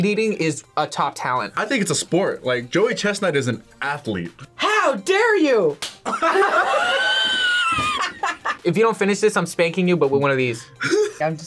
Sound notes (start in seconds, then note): 6.0 both laugh; 10.8 laughs